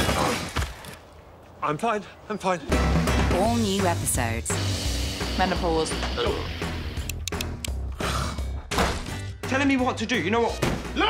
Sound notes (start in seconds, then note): 7.0 clicking